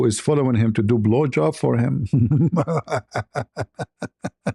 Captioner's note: ketawa